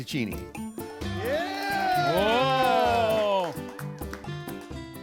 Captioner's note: students cheering